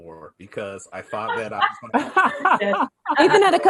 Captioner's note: laughs